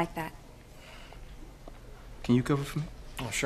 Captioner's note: sighing